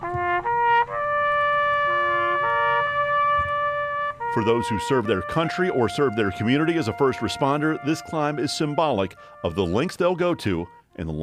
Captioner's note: taps